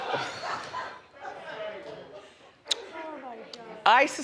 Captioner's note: crowd laughs